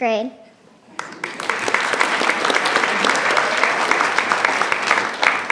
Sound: attendees clapping

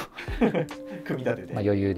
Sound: laughing

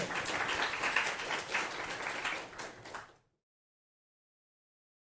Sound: applause

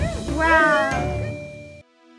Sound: cheering

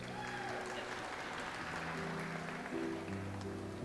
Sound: audience applauds

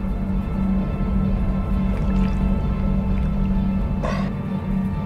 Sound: drinks aggressively

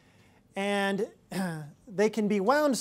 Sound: clears throat

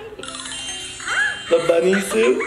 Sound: twinkle sound

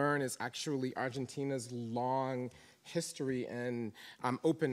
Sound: none

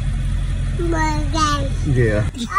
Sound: babbles

